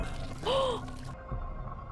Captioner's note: gasp